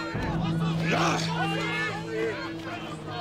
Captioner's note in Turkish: Hep bir ağızdan